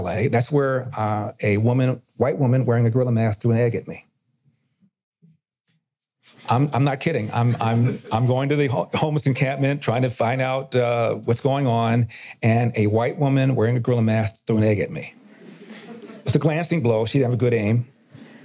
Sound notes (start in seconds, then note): 7.2 audience laughter; 15.3 audience laughter